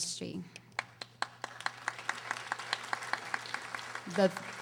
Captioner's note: audience applauding